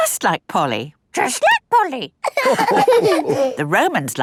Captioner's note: all laughing